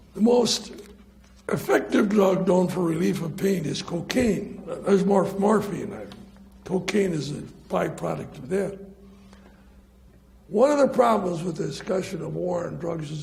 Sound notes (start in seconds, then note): none